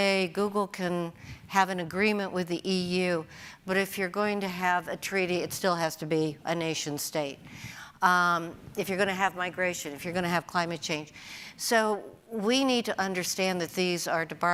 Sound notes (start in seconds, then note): none